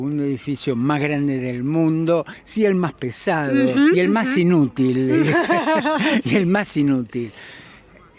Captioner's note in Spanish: risas